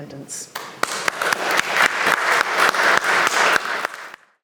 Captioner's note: audience applauds